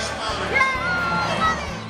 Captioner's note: cheering